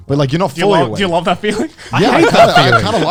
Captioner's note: laughs